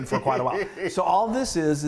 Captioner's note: laughs